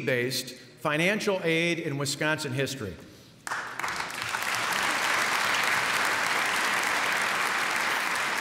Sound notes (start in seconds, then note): 3.4 applause